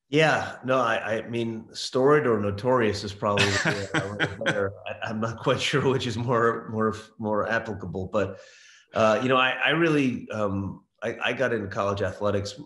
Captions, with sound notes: - Yeah, storied or notorious is probably it. (Laughs.) I'm not quite sure (laughs) which is more applicable. I really I got into college athletics